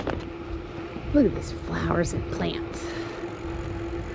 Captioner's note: happily